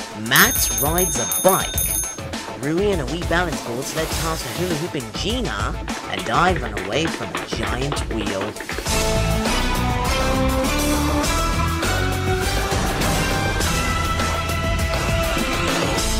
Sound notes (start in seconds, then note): 0.2 bicycle bell; 5.7 running footsteps